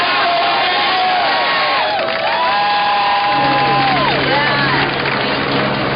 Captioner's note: cheering and applause